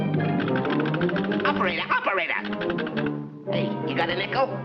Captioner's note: dramatic music; phone clicking